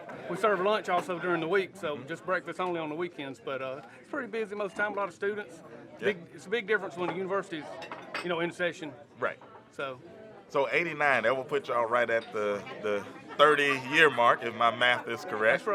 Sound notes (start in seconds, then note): none